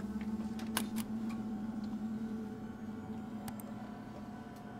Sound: mouse clicking

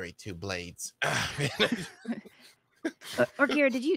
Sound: panelist chuckles

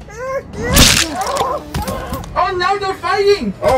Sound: Baraka Yelps

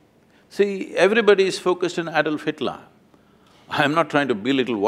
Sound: none

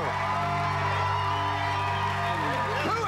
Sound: cheers and applause

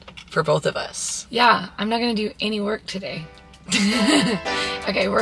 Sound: laughing

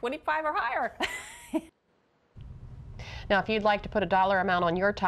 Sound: laughter

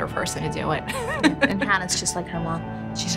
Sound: laughing

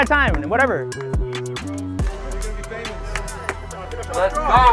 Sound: people speaking indistinct

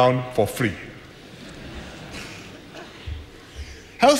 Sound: laughter

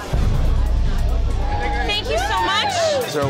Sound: cheers

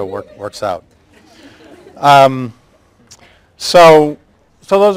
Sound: laughter

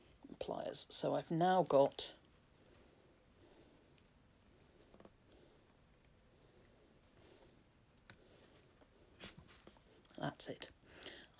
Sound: pause

